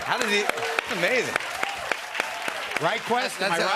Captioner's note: applause